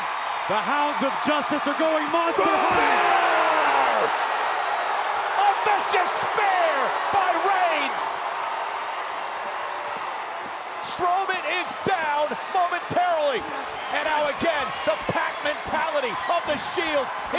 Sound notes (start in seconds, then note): 5.1 applause